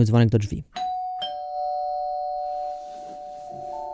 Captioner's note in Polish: rozlega się dzwonek do drzwi